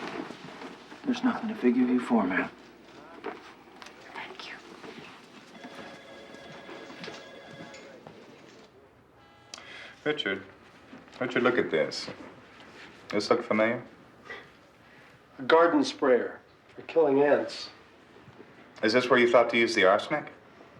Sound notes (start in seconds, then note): 5.4 phone ringing